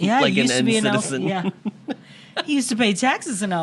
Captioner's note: chuckles